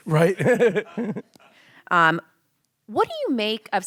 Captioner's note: laughs